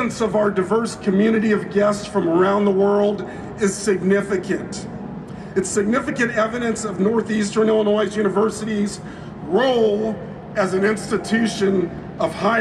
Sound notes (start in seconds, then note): none